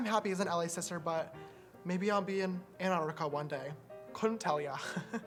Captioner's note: giggle